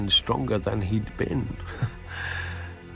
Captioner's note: chuckles